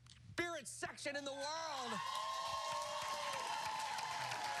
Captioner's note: cheers and applause